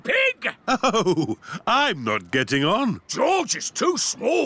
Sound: chuckling

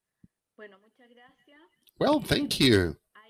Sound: speaking foreign language

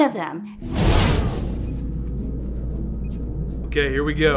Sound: computers beeping

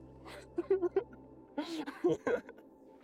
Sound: laughter

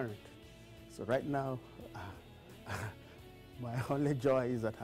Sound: laughter

